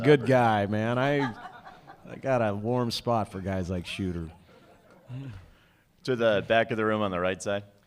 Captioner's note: laughter; laughter